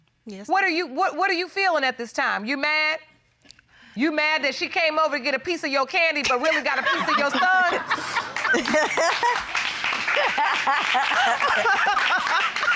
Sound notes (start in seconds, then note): 7.0 audience applauding; 7.9 laughter